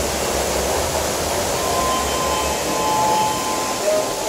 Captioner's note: chime